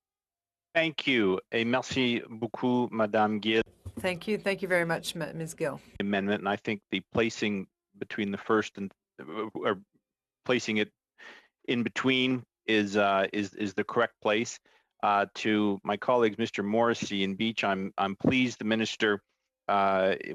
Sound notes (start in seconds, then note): 7.4 speaking French